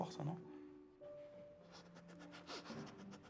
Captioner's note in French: reniflement